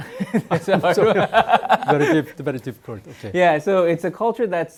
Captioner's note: laughing; speaking in Korean